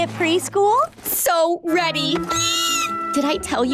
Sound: squealing

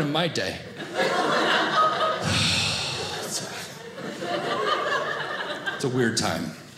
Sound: audience laughing

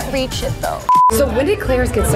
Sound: beeps

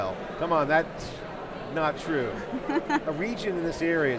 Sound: laughing

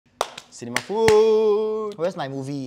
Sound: seal claps

